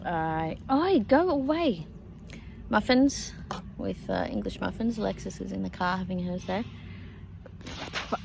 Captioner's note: sputters